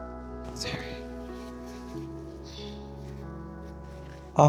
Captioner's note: exhales